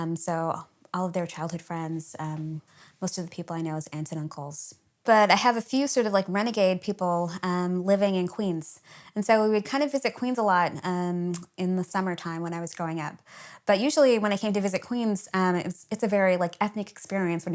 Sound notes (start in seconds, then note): none